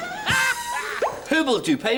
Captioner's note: laughter